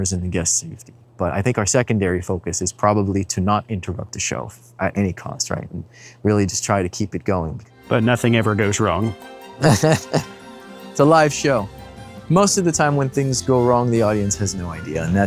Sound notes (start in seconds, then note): 9.6 laughing